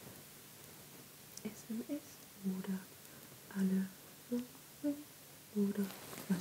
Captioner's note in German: flüstert